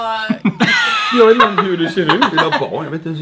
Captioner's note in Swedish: skratt